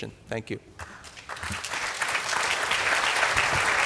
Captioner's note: applause